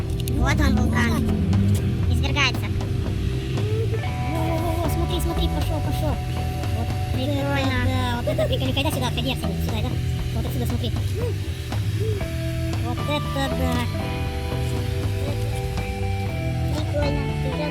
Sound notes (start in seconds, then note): 0.3 they say in a funny voice; 4.4 they say in a funny voice; 7.4 they say in a funny voice; 10.3 speak in a funny voice